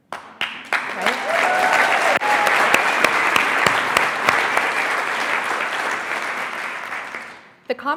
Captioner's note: audience clapping and cheering